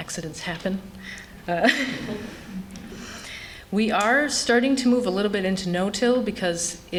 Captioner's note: laughter